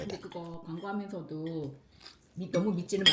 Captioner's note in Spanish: familia charlando